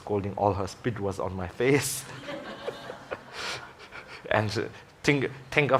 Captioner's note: audience laughing